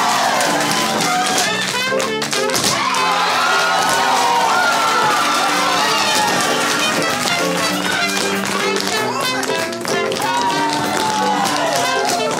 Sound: tap

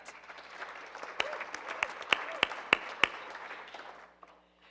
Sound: audience applauding

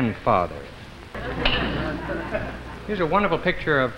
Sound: crowd laughs

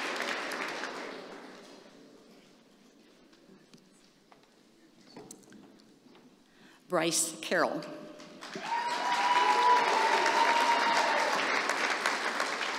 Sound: applause

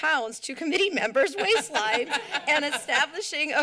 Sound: laughter

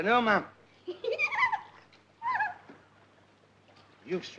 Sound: giggles

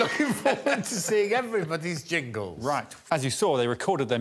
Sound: audience laughing; laughs

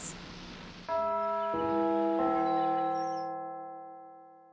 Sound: church bells

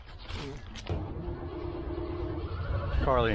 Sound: engine turning over

